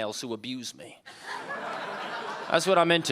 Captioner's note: audience laughing